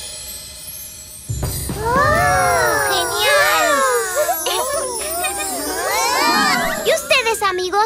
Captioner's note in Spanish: Risas